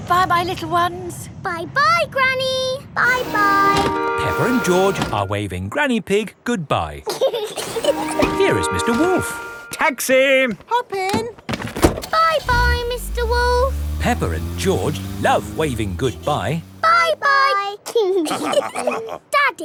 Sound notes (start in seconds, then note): 7.1 both laughing; 11.8 engine starts; 18.2 all laughing